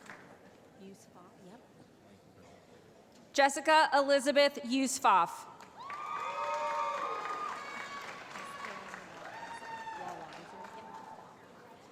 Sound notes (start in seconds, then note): 5.7 cheering